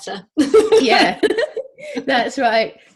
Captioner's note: laughs